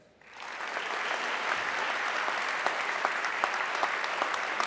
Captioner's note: audience clapping